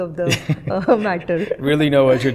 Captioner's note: laughter